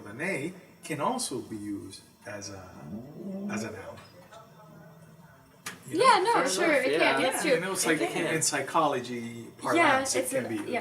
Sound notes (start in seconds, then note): 5.2 general agreement